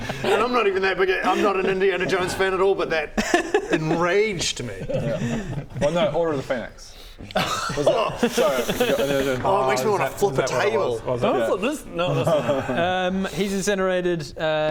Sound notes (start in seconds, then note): 7.0 winces